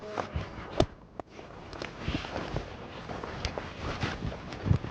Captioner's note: shuffling footsteps